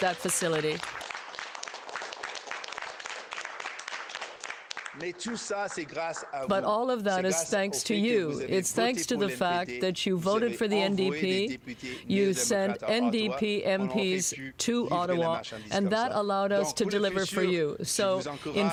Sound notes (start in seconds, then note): 3.1 applause